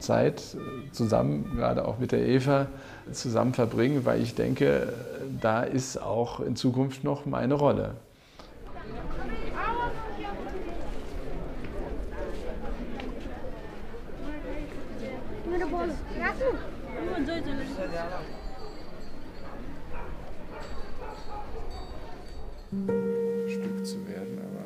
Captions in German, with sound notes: zusammen, gerade auch mit der Eva, zusammen zu verbringen. Weil ich denke, da ist auch in Zukunft noch meine Rolle. (Belebtes Stimmengewirr) (Leiser, heller Glöckchenklang) (Nachdenkliche Musik)